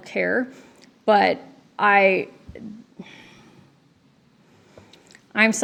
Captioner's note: sighs